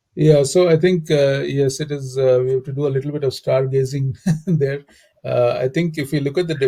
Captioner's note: laugh